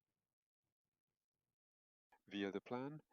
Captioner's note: silence